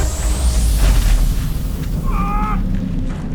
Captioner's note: atmospheric suction; electric hum; building collapse; rending steel